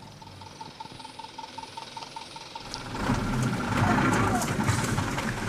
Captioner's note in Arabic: محرك الشاحنة يتلعثم